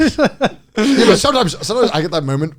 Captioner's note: both laughing